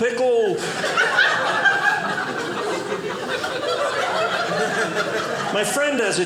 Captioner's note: audience laughing